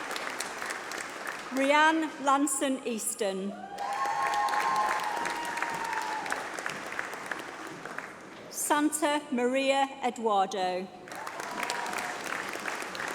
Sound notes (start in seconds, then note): 1.4 applause